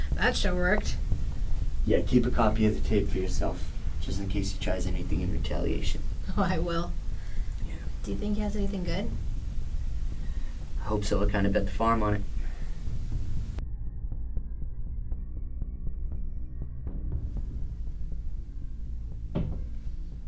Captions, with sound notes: - That show worked. - Yeah, keep a copy of the tape for yourself just in case he tries anything in retaliation. - Oh (laughing) I will. Do you think he has anything good? - I hope so, I kinda bet the farm on it. (ominous music)